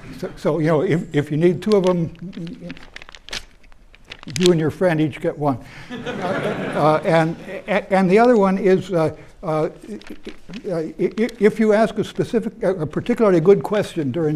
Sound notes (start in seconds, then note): 5.9 chuckles